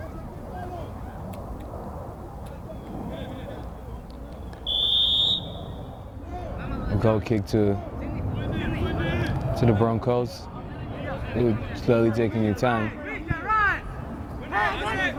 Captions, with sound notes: (whistle) Goal kick to the Broncos. Slowly taking their time.